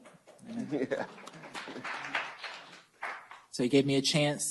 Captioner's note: applause